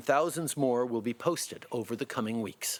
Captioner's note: speaking French